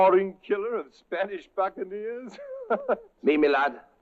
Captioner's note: laughs